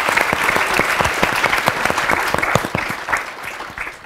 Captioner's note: applause